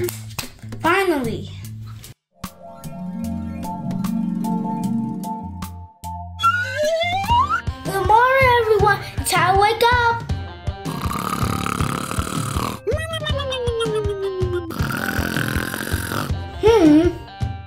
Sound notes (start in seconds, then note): 6.3 slide whistle ascending; 10.8 snoring